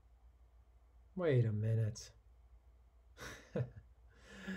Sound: chuckles

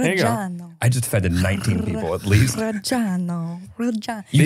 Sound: foreign language

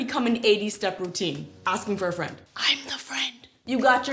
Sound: whispered

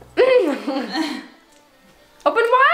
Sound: laughing

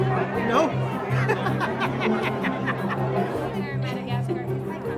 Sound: laughing

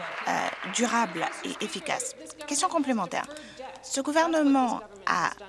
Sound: applause

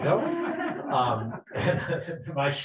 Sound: people laughing

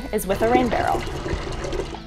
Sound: water running

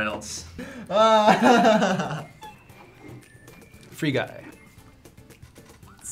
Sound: laughs

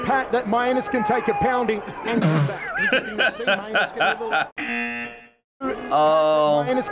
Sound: buzzer

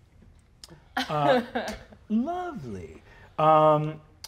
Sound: laughing

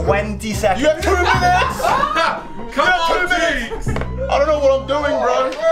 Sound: group cheering

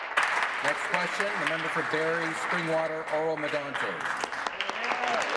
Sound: applause

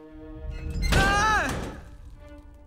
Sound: screams

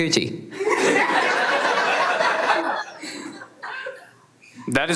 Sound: everyone laughs

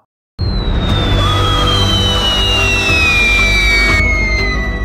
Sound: actual scream sound

